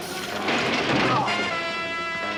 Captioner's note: tense music; clanging; groans; tense music